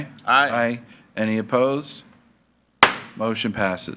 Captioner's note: gavel thuds